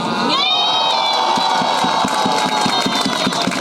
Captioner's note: cheering; applause